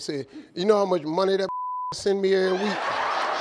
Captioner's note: beep; audience laughing